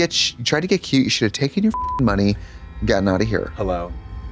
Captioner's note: beep